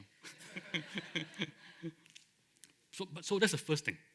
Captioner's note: laughter